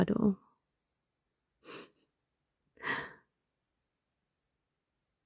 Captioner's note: snuggly laugh